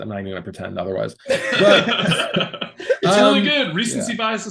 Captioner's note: all laughing